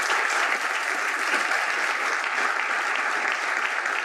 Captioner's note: applause